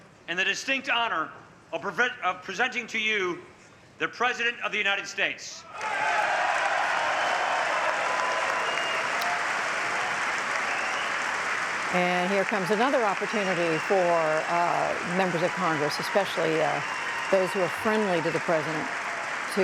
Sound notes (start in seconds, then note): 6.8 cheering and applause